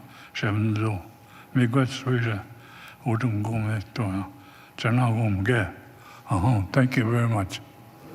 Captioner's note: continues in native tongue